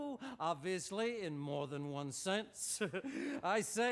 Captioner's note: chuckles